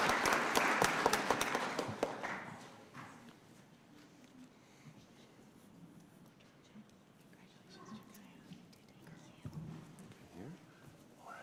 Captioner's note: cheers and applause